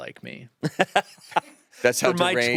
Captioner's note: laughs